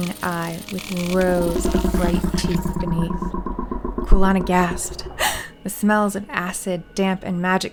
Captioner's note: clicking